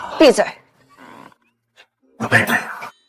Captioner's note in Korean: 침묵